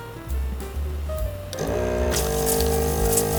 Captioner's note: motor whirring